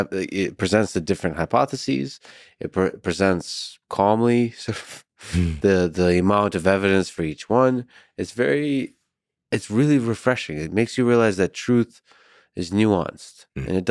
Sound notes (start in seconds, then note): 4.2 laughing